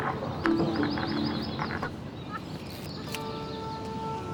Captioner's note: click